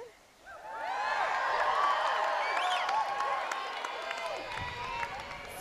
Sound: cheers, applause

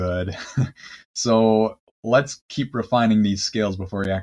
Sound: chuckles

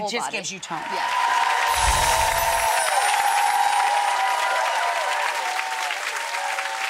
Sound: audience cheering

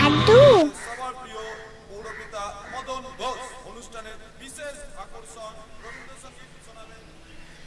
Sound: announcement continues and Fades…

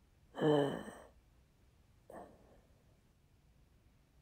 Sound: shallow breath

